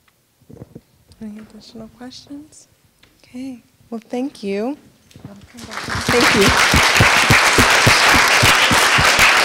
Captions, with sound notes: Any additional questions? OK, well, thank you. [APPLAUSE]